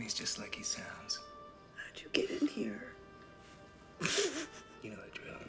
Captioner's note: snickers